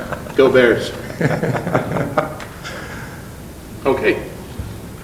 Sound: laughing

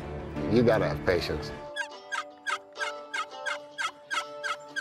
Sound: turkey call

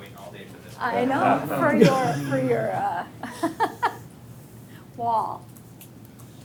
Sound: all laughing

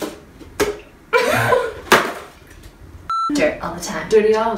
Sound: laughs

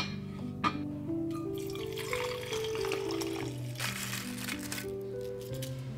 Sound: water pouring into tea pot; rose petals crackling

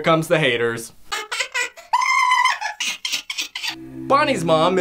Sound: crazy scream with sign that says thumps up for crazy

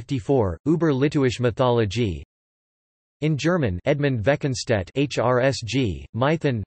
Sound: in German

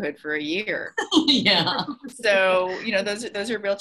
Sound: laughs

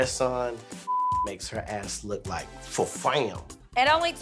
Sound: beep

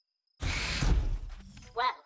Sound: door closes

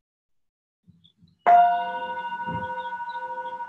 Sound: chime

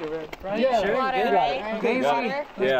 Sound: chattering

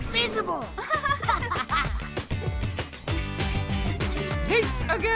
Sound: Nate and Malika laugh

